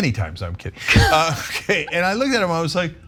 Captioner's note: laugh